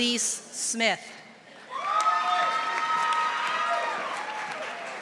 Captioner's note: audience applauding